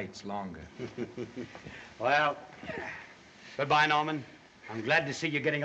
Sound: chuckles

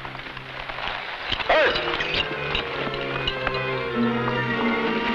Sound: man shouts; tense music

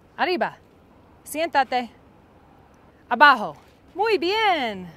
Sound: speaking Spanish

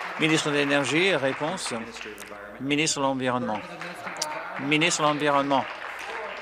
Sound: applause

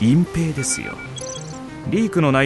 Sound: device beeps

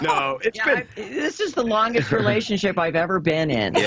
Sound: laughter

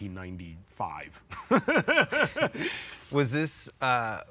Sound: laughs

